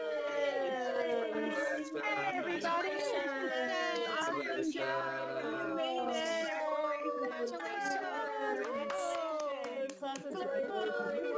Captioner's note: clapping and cheering